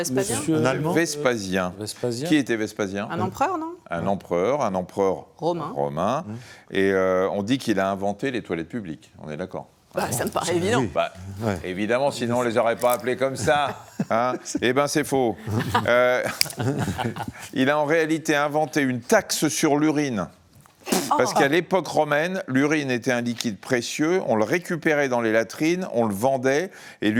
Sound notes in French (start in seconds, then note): 15.4 rires; 20.8 grognement